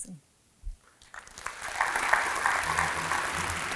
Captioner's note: applause